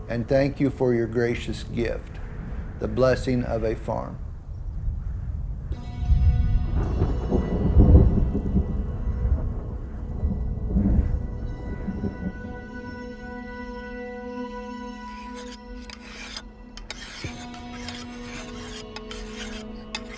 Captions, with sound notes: And thank you for your gracious gift. The blessing of a farm. (slow music) (thunder)